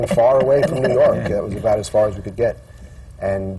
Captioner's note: laughter